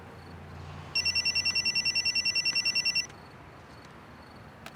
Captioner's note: phone ringing